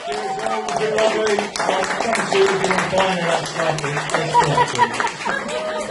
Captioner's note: audience laughing & clapping etc; laughs